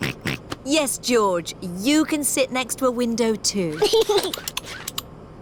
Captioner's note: snorts; giggles